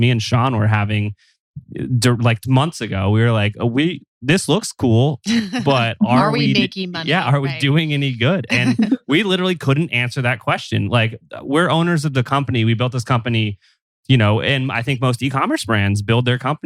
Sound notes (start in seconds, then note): 5.4 laughs